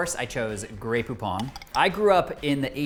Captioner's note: jar clinks